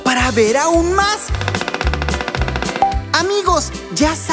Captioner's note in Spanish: Sonido de pájaro carpintero